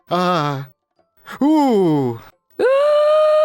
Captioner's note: sound of great concern; sound of slight concern; big long gasp